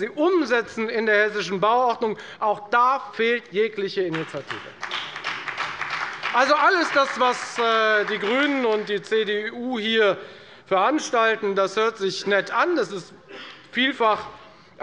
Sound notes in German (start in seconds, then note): 4.1 Beifall bei der FDP und bei Abgeordneten der SPD